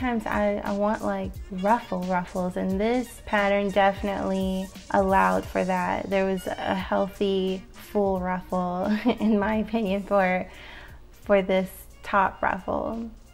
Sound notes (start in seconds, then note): 8.9 chuckles